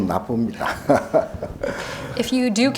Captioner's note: chuckling